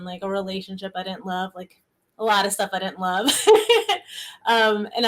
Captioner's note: laughs